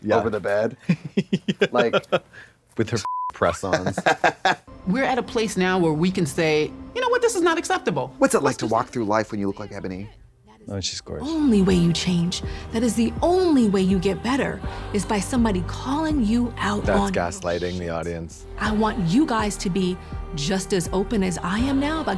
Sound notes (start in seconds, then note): 3.0 beep